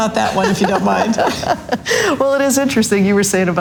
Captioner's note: laughs loudly